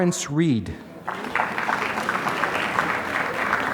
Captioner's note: applause